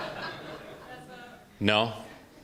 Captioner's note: laughter